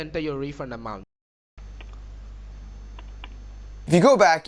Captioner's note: keyboard typing